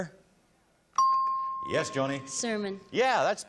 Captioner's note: ping